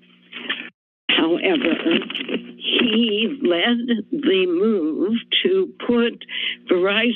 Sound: rustling sound

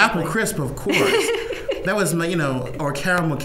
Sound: laughing

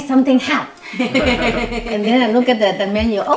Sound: laughs

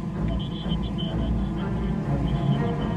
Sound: radio Chatter

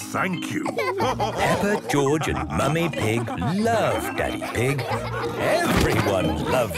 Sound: all laughing

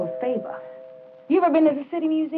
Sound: door bell rings

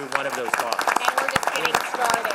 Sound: applause

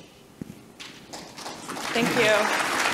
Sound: audience applause

